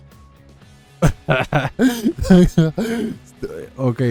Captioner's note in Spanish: risas incoherentes